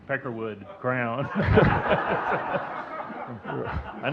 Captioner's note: audience laughing